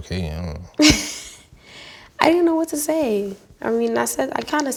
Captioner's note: laughs